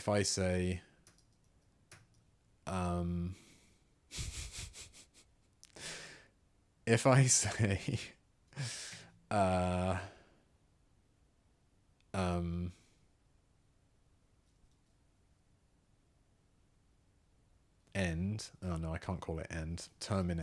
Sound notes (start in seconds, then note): 4.2 laughs; 8.2 laughs; 12.9 silence